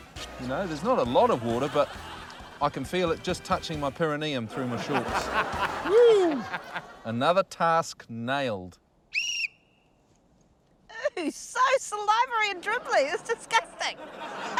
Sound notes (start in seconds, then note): 4.4 laughter; 9.1 whistle blows